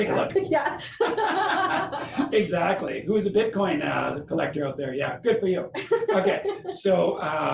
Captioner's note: laughter